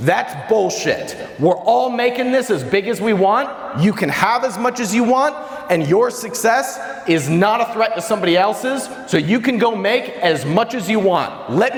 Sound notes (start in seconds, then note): none